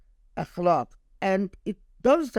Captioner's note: speaking Arabic